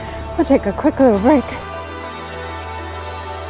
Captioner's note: exhales